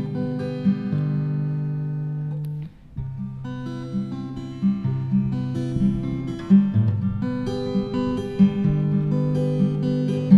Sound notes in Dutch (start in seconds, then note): none